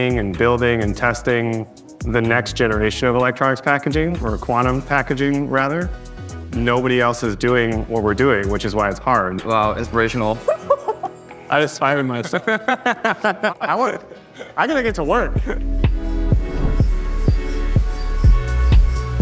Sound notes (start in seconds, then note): 12.1 laughing; 15.7 light music continues